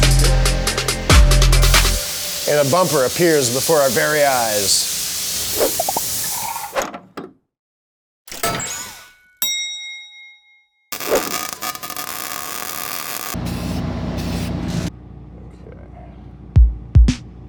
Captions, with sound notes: - And a bumper appears before our very eyes. (bell dings) (weld buzzing) - Okay.